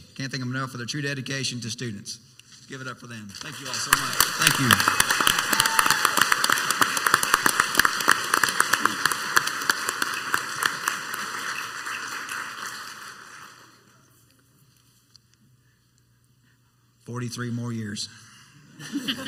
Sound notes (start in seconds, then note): 5.6 group cheering and applauding; 13.2 applauding quietly stops; 18.8 committee members and audience laughing